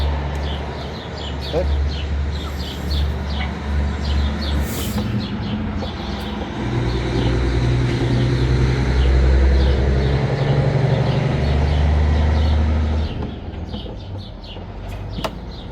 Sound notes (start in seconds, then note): 3.5 sounds of a large truck passing